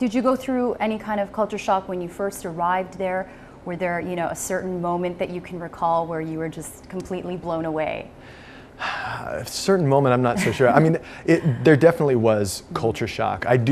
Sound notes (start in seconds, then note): 8.8 sighs